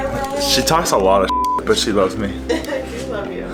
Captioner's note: beep